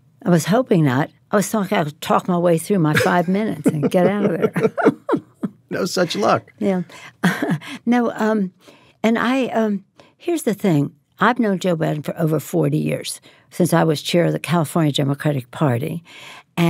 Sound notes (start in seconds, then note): 2.9 both laugh